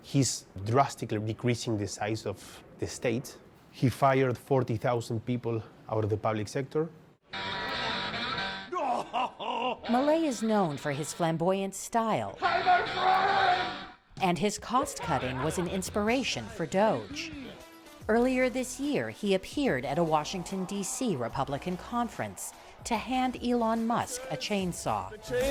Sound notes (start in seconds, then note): 9.5 voice-over